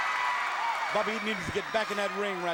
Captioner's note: crowd cheering